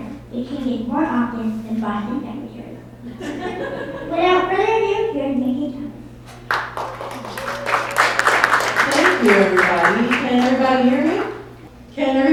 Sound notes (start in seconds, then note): 3.0 laughter; 6.4 applause